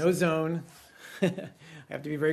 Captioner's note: laughter